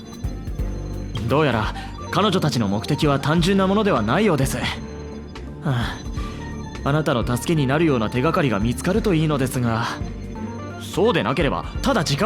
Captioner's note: sigh